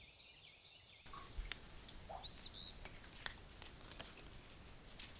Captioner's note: water dripping